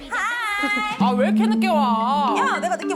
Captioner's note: scolding tone